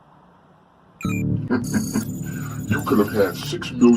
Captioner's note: Facade laughs